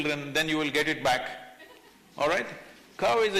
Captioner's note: few laugh